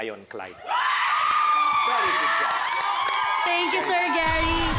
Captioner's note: audience cheering